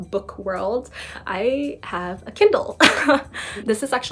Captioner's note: chuckles